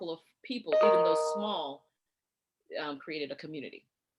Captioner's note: computer chimes